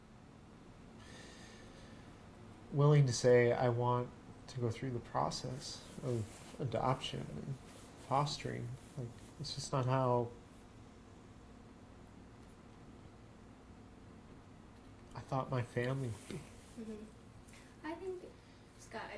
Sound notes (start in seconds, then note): none